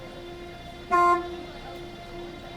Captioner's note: honk